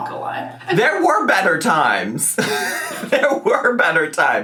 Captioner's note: laughs